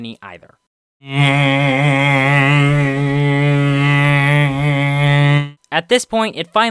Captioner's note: annoyed noises